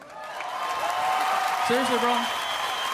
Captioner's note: cheering and applause